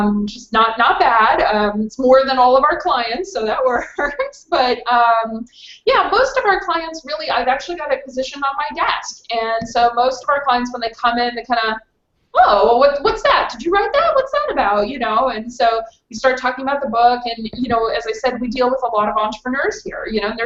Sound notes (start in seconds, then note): 3.6 laughs